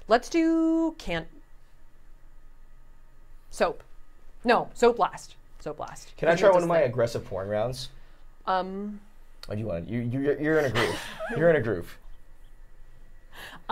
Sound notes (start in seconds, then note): 10.6 laughing